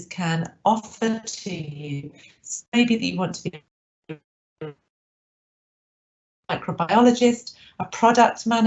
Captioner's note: audio distorts 28.26